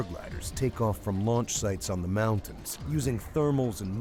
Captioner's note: voiceover